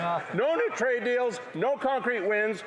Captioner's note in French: voix de l'interprète